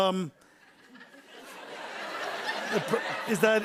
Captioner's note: laughter